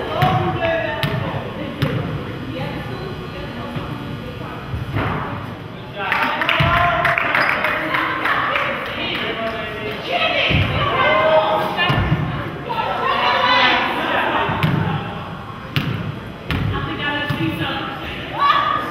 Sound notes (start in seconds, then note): 6.0 crowd claps